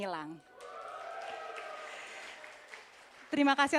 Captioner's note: applause